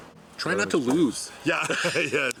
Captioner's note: laugh